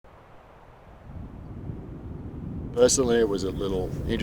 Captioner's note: wind blowing